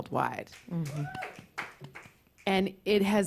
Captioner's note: applause